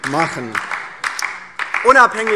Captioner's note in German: Heiterkeit und Beifall DIE LINKE